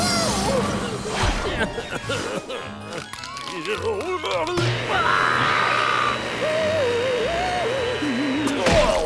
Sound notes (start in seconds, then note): 1.6 coughing; 4.8 screaming